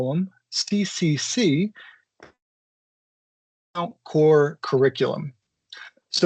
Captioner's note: faintly speaking